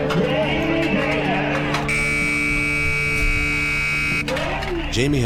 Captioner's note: loudspeaker over buzzer sound